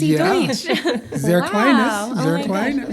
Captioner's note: speaking german